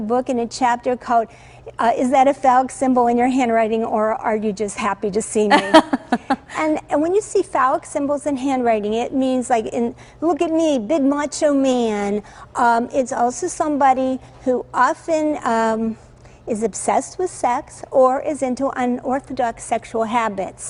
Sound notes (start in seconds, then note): 2.7 laughter